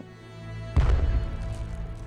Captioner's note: blast